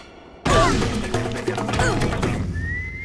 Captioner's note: grunting